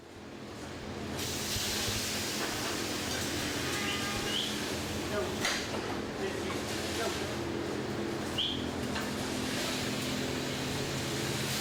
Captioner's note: farm sounds